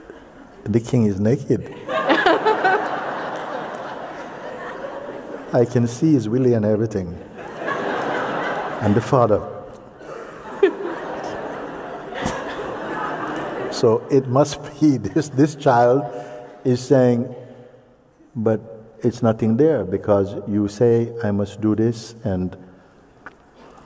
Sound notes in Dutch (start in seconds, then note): 4.2 gelach; 7.3 gelach